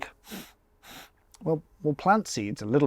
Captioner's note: sniffs